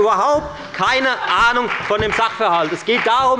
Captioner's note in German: Beifall bei der FDP – Lachen bei dem BÜNDNIS 90/DIE GRÜNEN